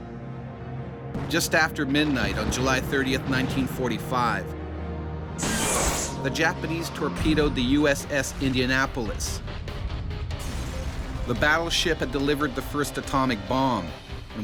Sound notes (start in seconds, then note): 5.4 missile launches; 10.3 boom